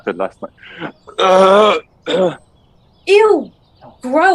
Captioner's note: Sound of Joseph throwing up